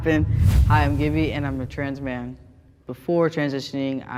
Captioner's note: whoosh air